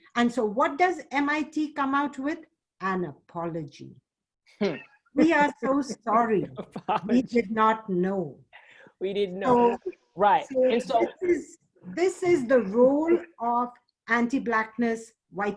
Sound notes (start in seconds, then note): 5.1 laughs